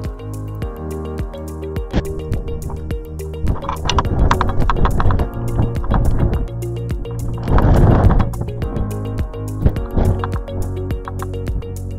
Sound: music and wind blowing

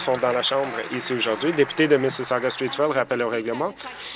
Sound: applause

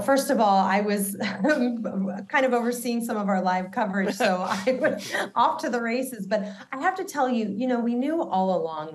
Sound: laughter

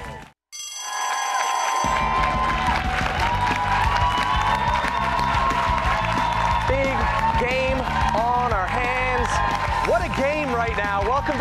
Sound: bell rings; cheers and applause

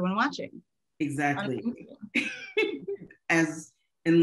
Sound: laughing

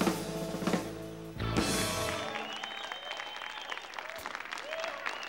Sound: audience applauding

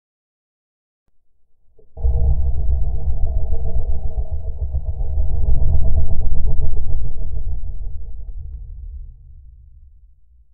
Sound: sound of a low growl

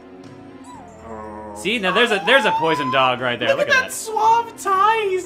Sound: wimpers; girly squeal

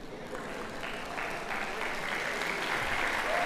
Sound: cheers and applause

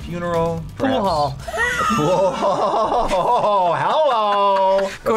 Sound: laughs

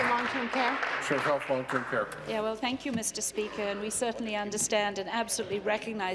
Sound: applause

